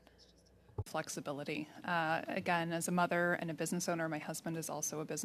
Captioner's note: speaking French